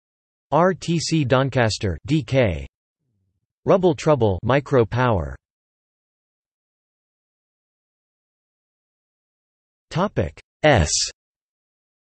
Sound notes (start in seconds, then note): 7.0 Mandarin